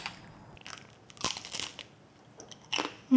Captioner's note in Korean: 바사삭